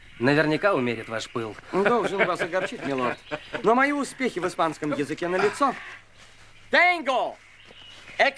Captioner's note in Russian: смех